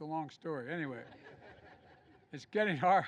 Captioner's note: laughter